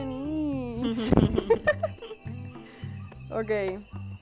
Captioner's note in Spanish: risas